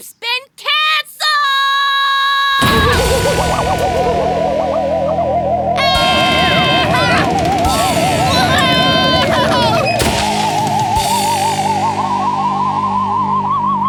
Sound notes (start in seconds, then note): 5.7 Pelswick screaming